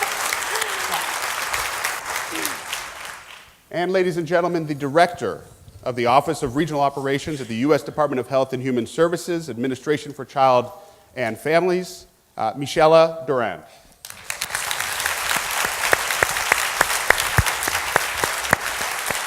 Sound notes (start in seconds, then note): 0.0 applause; 17.5 applause